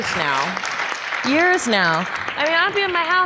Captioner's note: audience applause